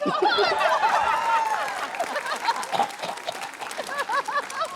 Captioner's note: laughter, cheering, applause; coughs; laughter